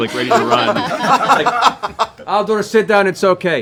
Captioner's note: laughter